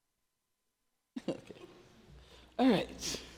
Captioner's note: Angela chuckling